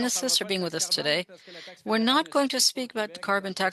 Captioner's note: speaking French